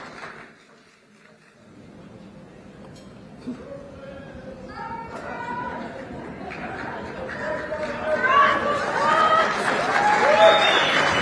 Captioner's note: applause